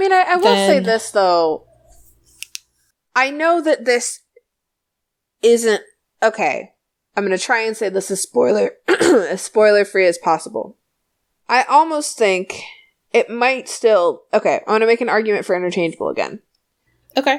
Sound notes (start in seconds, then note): 8.8 coughs